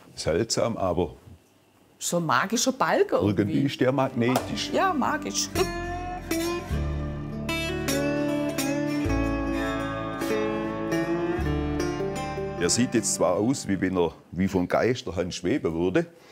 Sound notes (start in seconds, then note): 4.8 laughs; 6.3 relaxed guitar music